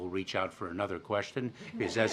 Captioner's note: laughter